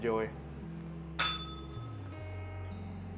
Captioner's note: bell rings